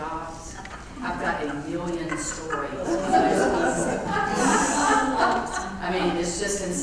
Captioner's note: laugh